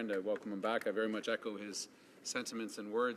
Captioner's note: speaking French